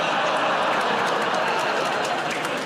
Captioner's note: audience groans